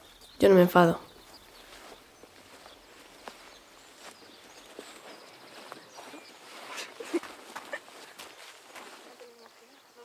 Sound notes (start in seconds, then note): 6.7 Sua laughs